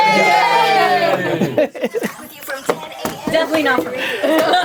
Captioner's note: everyone cheering